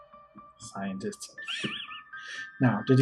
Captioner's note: wheezing laughter